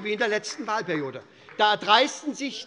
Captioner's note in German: Beifall SPD